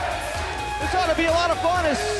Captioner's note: fans chanting